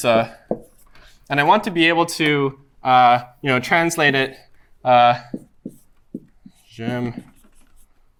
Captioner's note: french